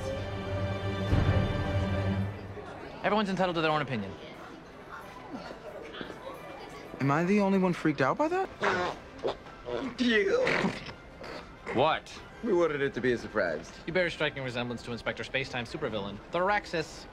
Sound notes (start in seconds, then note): 9.0 stifiled laughter that sounds a bit like farts tbh being honest